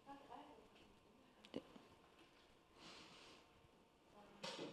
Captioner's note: faintly speaking